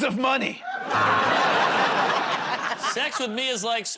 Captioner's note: laughter, buzzer